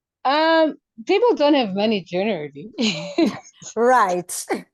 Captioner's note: chuckles